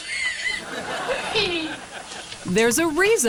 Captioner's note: audience laughs; laughs